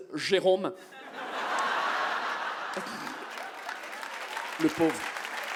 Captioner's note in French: le public rit et applaudit